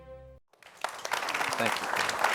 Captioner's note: applause